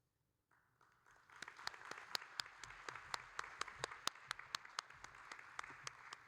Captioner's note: audience and applauding